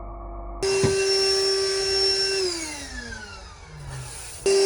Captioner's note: vacuuming